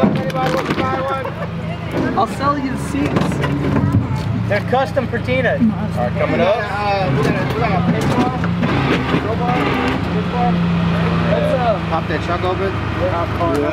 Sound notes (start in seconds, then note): 9.7 scraping